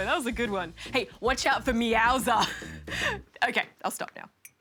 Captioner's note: laughs